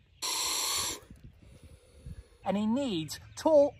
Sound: hissing

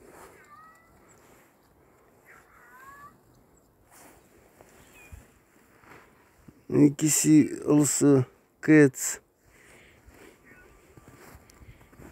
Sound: sound of cat mewing

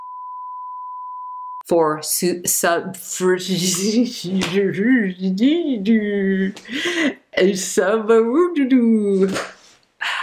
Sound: nonsense noises

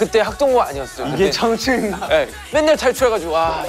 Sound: haha

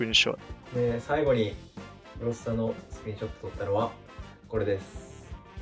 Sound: speaking in foreign language

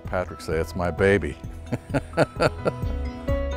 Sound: laughs

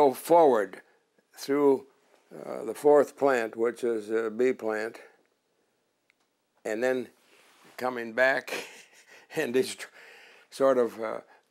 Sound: laughter

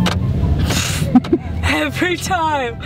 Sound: incredulous laugh

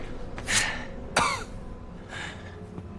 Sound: coughing

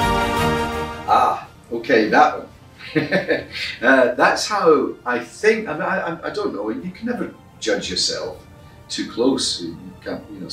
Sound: laughs

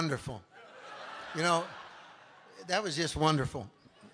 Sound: congregation laughing

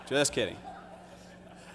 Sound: laughter

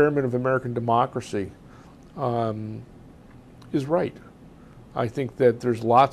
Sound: pauses for 3 seconds

